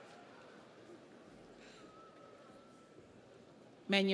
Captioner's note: audience cheers